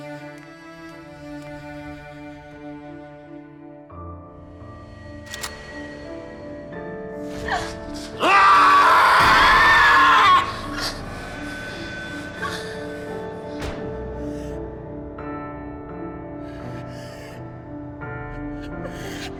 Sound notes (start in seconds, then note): 4.2 soft piano music; 7.9 yells